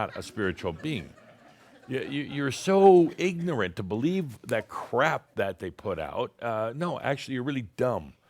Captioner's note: some giggles